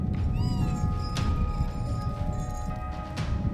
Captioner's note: whirring sound